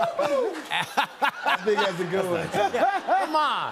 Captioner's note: laughter